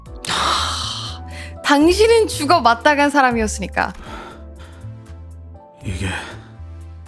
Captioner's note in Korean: 헉 소리